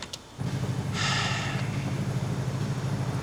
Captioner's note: sighs